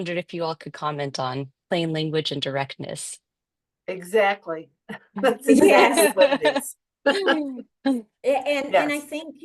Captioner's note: chuckling